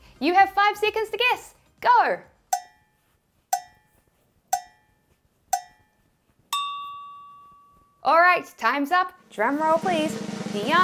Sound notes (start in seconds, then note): 2.8 clock ticking; 6.5 bell dings